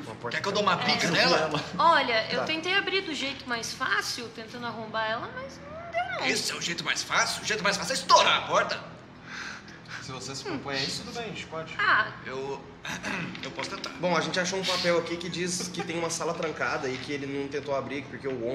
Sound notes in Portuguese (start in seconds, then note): 12.8 limpa garganta